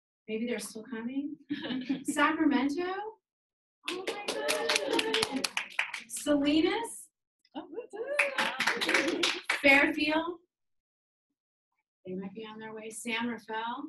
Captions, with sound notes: Maybe they are still coming. Sacramento? (audience clapping and cheering) Salinas? (audience clapping and cheering) Fairfield? They might be on their way. San Rafael?